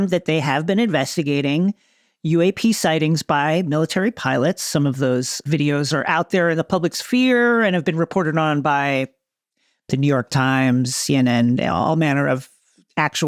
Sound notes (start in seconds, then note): none